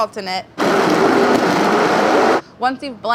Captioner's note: blender grinds